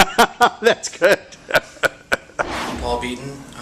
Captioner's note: laughter